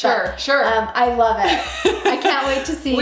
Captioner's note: laughs